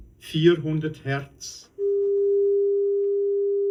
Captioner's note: voice on test record